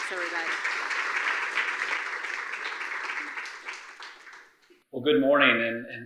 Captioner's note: audience applauding